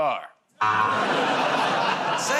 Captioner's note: buzzer